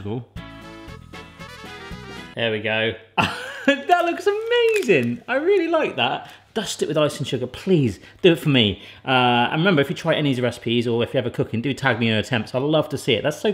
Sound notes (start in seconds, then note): 0.4 upbeat music; 3.1 laughs